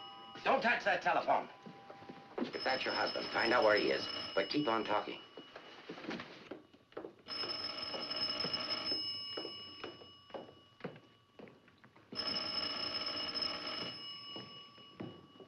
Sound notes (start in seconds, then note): 3.5 phone ringing